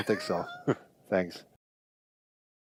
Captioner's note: laughs